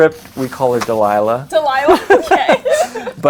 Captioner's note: laughs